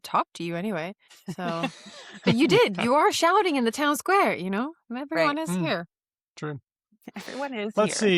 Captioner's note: laughter